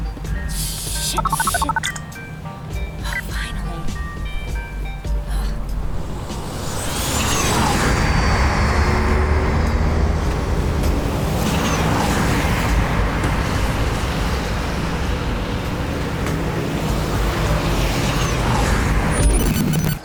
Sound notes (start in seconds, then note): 7.1 flying car zooms; 9.6 bustling city sounds